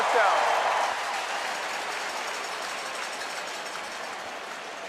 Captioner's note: crowd cheering